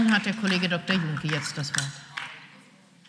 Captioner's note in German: Beifall